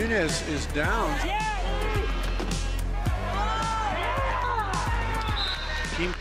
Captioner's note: cheering